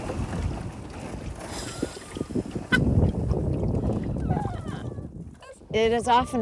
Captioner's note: bottom of boat scraping ice; laughing